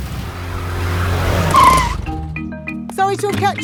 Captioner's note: brakes squeal; car engine starts